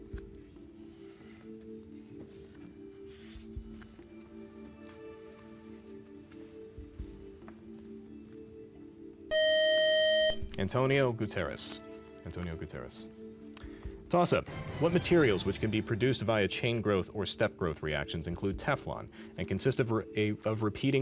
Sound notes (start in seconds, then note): 7.7 time up buzzer